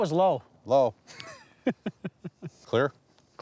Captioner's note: laughs